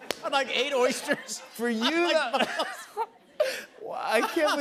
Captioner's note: laughs